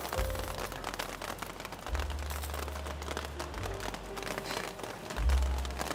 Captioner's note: gently tapping the umbrella